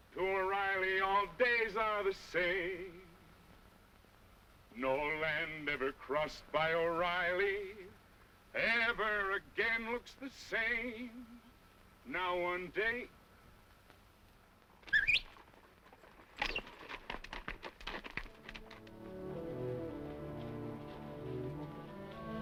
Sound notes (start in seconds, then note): 14.9 kid whistles; 16.6 horse clopping; 18.8 dramatic orchestral music